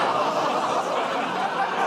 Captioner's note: laughter, groaning